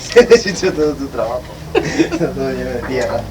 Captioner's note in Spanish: risas